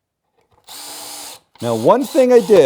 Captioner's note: screw gun